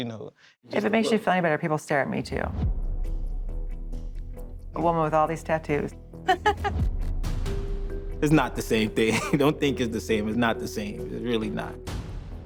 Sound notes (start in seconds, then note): 6.2 laughs